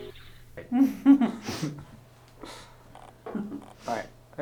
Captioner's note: laughing